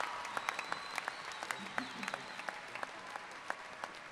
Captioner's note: applause